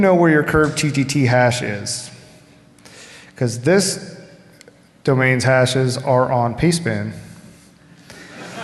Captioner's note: laughter